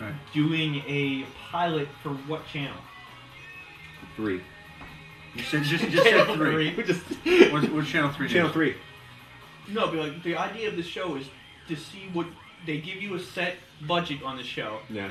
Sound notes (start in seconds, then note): 5.4 laughter